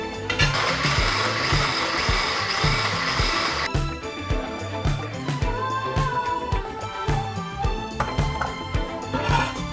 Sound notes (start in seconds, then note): 0.0 rumbling sound; 3.7 upbeat music